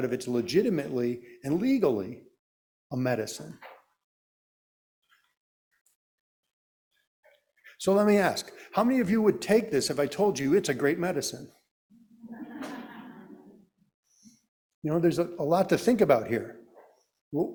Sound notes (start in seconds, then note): 12.4 audience laughing